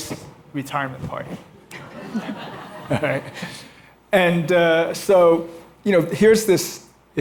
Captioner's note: laughter